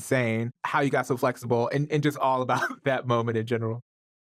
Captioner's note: chuckles